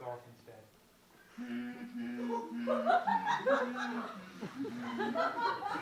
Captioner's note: Humming the Star Wars theme